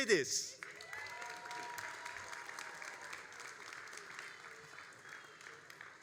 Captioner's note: all applauding and cheering